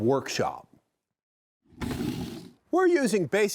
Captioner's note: wood scraping